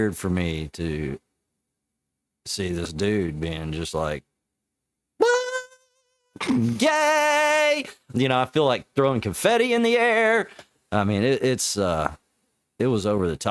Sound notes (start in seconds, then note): 5.2 imitates horn